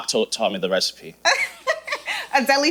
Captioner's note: laughing